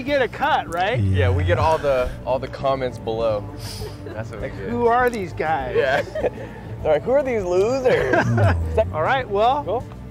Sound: laughs

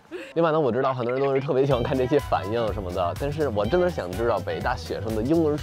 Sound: speaking in foreign language

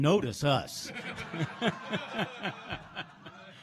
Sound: laughs

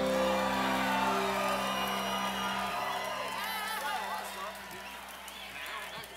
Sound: audience applauds; audience cheers

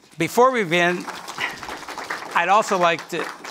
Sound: audience applauds

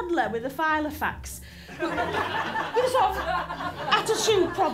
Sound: laughter

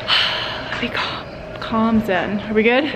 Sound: sighs

